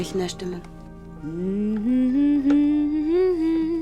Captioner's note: humming